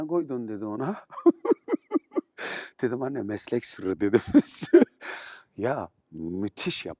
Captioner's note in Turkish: kahkaha